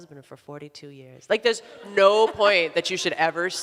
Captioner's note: audience laughs